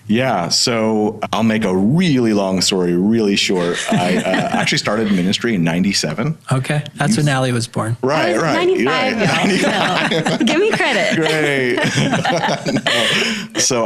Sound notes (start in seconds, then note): 3.5 laughing; 8.2 all laughing